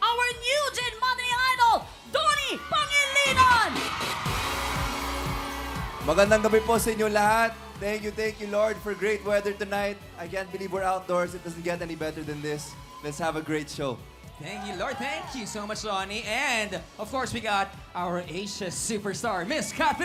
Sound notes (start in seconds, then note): 4.2 cheering; 4.2 upbeat music playing